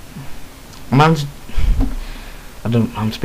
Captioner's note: sigh